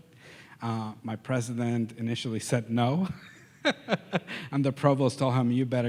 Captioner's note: laughs